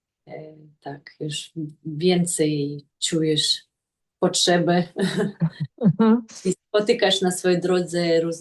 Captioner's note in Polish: śmiech